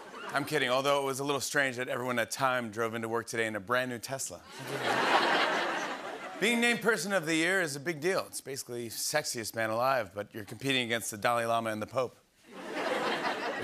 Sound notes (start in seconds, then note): 4.4 laughter; 12.5 laughter